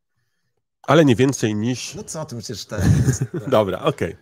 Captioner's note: laugh